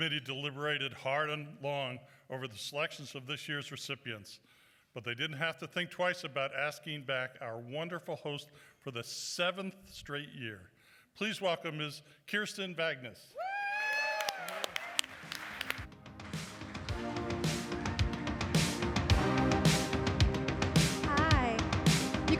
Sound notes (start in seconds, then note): 13.8 applause